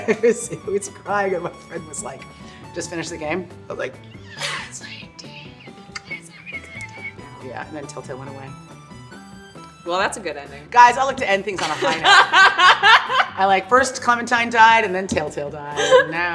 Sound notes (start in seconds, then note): 11.6 laughter